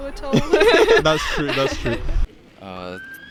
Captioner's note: wild laughter